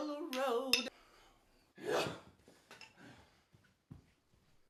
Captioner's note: groaning